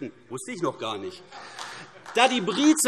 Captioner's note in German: Beifall AfD